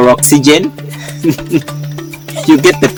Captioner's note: laughing